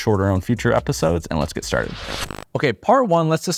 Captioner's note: static hisses